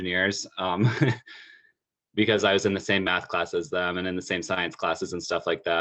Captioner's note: laugh